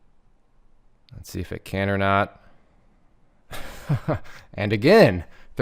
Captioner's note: laughs